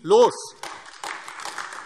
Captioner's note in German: Beifall AfD